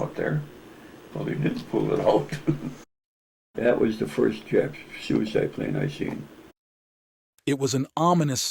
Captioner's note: laughs